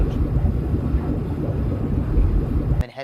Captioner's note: mechanical sounds